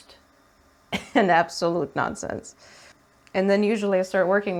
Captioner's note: giggles